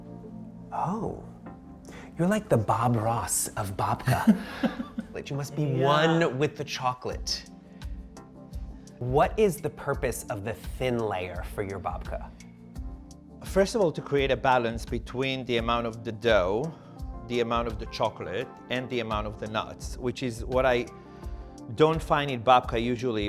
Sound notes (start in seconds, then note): 4.0 chuckling